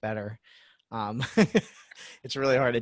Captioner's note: laughs